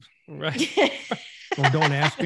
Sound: laughs

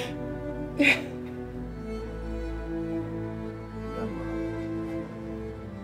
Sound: crying

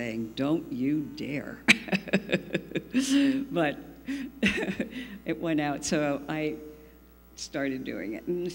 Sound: laughs

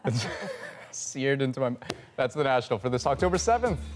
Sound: laughter

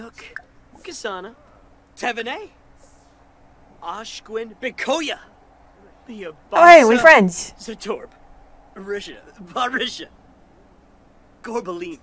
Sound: Simlish; Simlish

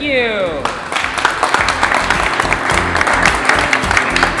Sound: audience applauds

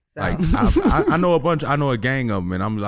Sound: laughing

